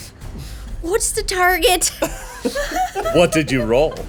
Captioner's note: everyone laughing